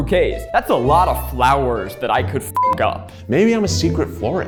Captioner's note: beep